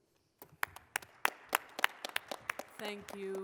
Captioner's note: applause